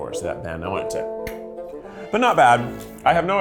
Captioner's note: fingers click